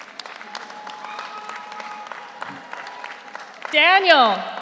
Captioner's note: audience cheers; audience applauds